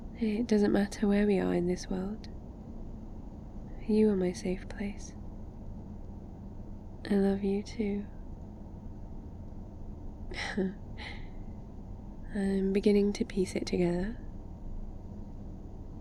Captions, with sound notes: it doesn't matter where we are in this world you are my safe place I love you too *small laugh* I'm beginning to piece it together